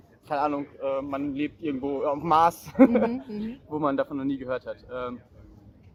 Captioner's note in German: lacht